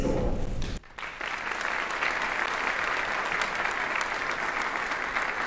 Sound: audience applauding

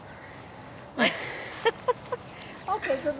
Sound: more laughing from behind the camera

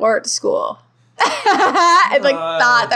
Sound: laughing

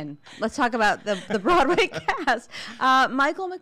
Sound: laughing

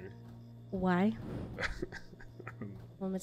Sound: laughs

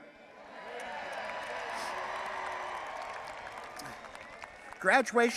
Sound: audience applauding and cheering

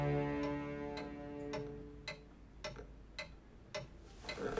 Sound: clock ticking

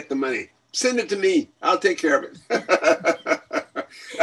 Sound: laughs

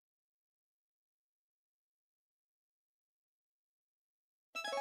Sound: silence; 16-bit video game music resuming

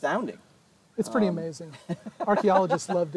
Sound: laughs

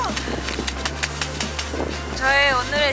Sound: intense clapping

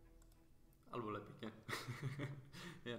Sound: chuckles

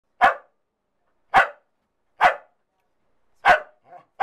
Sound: dog barking

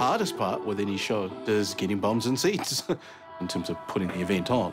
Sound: chuckles

